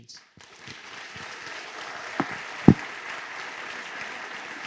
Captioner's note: applause